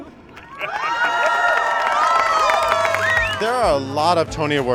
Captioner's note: all applauding